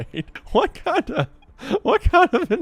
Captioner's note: laughing